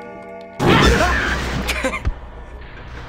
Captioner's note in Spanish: ruge; Chillido asustado; risas